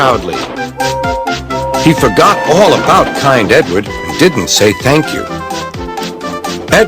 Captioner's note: gordon whistled